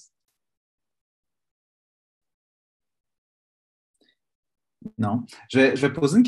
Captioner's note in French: silence